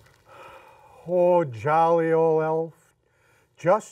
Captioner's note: Santa sighs